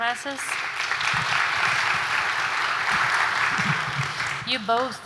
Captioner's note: claps